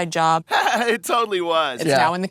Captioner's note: laughing